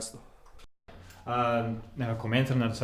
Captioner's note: thinking noise